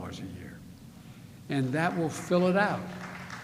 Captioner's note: applause